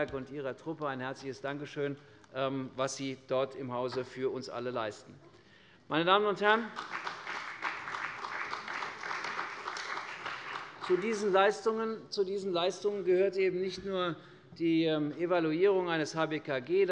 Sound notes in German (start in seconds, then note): 6.6 Beifall bei der CDU und dem BÜNDNIS 90/DIE GRÜNEN